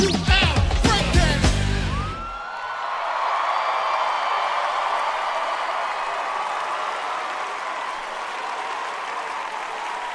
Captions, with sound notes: - Mama said knock you out. Break down. [cheering, applause]